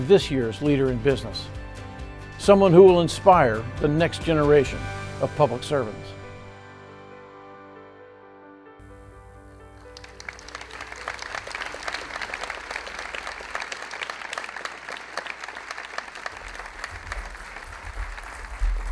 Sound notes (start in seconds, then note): 6.4 upbeat music; 10.5 audience applauding